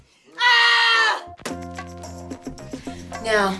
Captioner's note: screaming